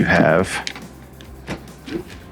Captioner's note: latch unlocks